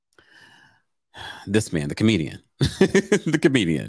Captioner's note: laughs